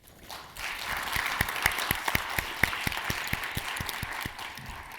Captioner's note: audience applauding